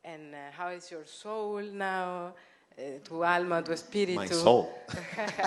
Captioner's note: spanish